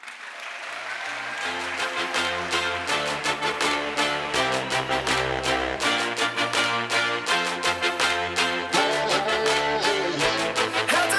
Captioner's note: crowd applause